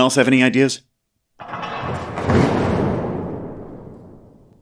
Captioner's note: ominous sound